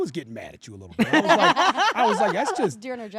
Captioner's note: laugh